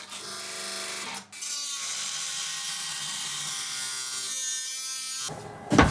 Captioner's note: dremel whining